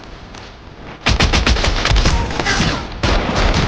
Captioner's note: gun fire